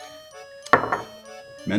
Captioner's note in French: tst